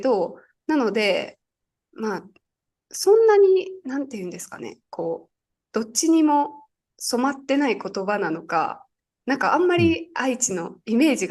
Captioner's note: dialect